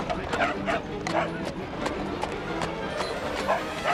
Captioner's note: Patch barking